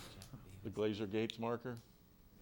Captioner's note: man speaking distantly